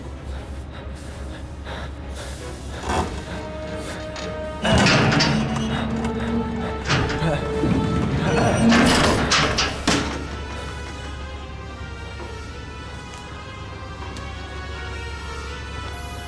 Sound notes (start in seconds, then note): 2.7 creaking